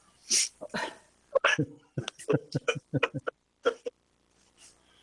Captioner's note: all chuckling